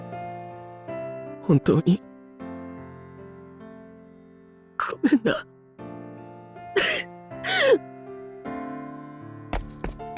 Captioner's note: sob